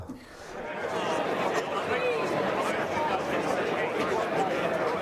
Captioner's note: fans chattering